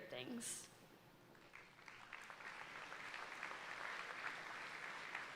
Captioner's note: audience applauding